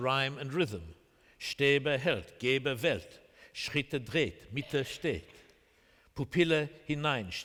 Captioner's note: speaking german